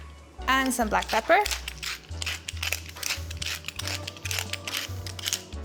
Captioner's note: pepper mill grinding